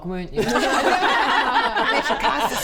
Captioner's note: laughs